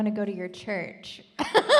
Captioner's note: laughing